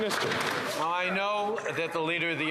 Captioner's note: some Applause